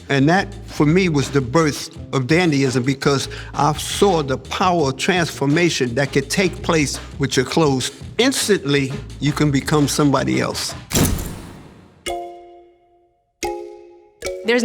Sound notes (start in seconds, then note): 11.0 camera shutters; 13.4 bright music